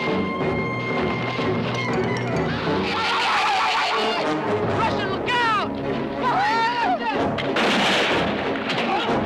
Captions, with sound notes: (shrieking) Russian, look out! (intense music)